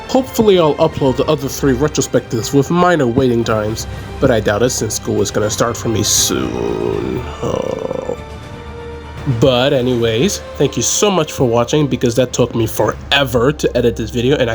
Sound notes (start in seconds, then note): 5.9 groan